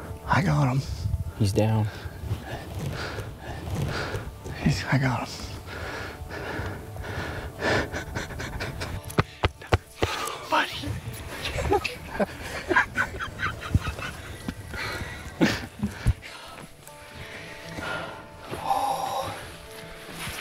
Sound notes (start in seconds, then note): 7.7 laughing; 9.1 hand slapping; 11.4 laughing